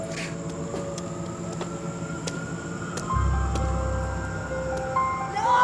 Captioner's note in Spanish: Sirenas a lo lejos